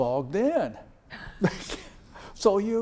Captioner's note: laughs